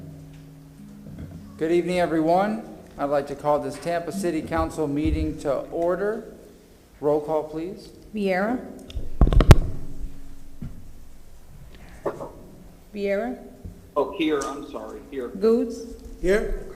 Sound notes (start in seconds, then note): 1.9 gavel sounding